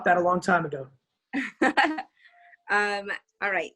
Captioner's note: chuckles